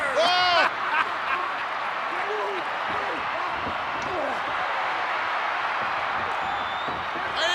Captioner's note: crowd cheering; laughs